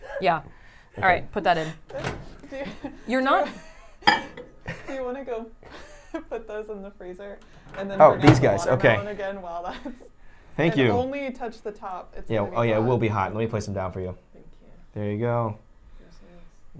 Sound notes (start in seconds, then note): 8.5 chuckles